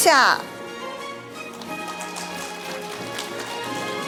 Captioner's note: audience applauding; orchestral music